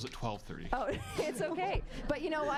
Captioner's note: laughing